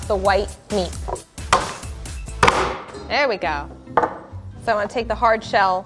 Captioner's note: bashes